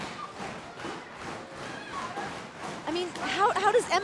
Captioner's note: crowd clapping